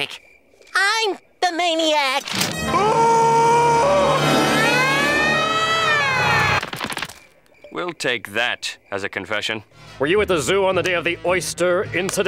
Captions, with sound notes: I'm the maniac. [screaming] [sirens blaring] We'll take that as a confession. Were you at the zoo on the day of the oyster incident?